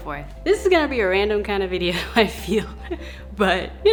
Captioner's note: laughs